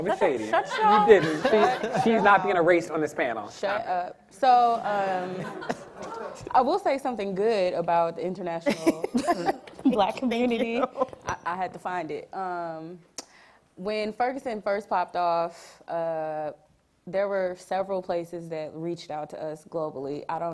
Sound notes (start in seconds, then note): 0.4 audience laughing; 10.2 laughing